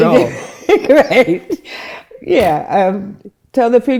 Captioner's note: laughing